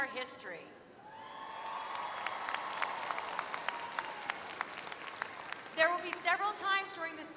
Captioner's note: applause